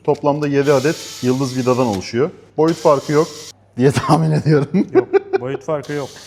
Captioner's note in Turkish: kahkaha